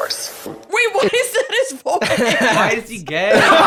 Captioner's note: laughing